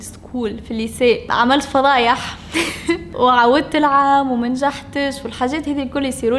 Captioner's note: chuckles